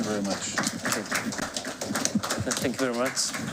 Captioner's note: applause